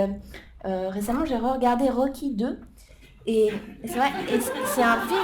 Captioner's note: laughter